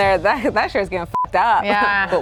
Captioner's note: beep